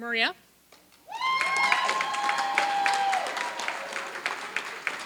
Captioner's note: applause